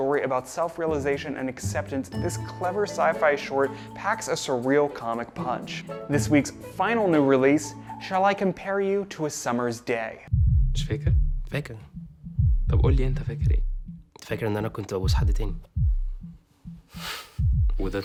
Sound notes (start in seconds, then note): 10.2 men speaking in foreign language